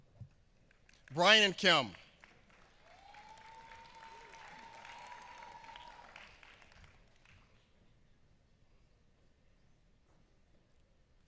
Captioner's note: applause